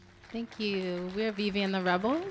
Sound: audience applauding

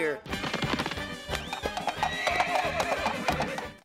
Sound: galloping, neighing

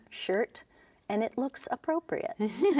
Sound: laughing

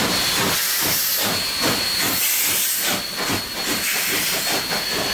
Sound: chugs from steam locomotives

